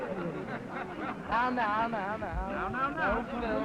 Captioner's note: crowd ambience